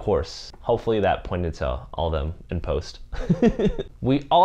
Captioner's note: laughs